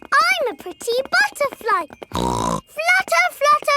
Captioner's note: snorts